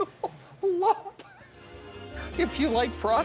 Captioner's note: laughs